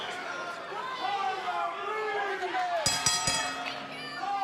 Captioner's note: bell ringing; crowd chatter